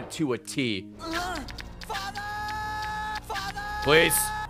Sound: screaming "father!" repeatedly

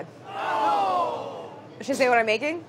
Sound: chorus groaning

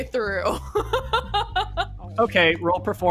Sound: laughs

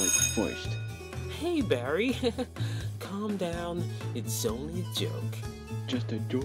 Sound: chuckles

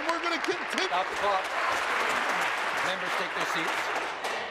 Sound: applause

